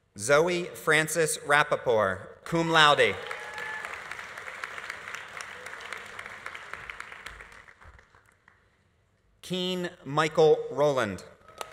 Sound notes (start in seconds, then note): 3.0 audience applauding; 3.0 audience cheering